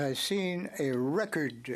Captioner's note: speaking French